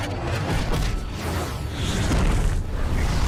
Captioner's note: bomb blast